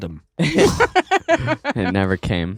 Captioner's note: laughing